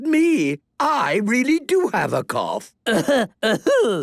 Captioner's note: coughing